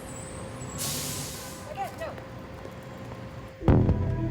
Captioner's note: vehicle stopping; intense music